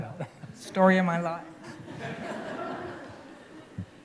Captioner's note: laughter